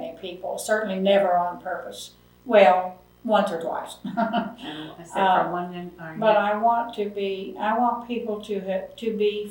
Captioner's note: laughs